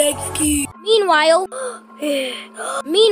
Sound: gasping

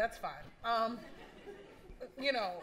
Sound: laughter

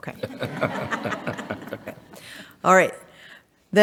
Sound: all laughing

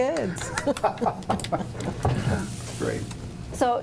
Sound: laugh

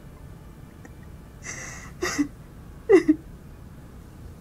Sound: cries

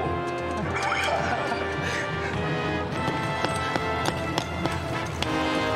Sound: chuckling; pickaxes Tapping

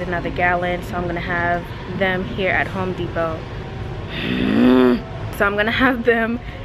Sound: growls

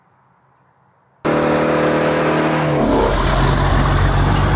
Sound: car engine whirling

